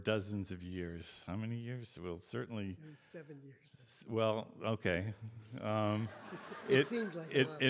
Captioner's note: audience Laughter